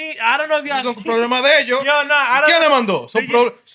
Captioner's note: non-english Speech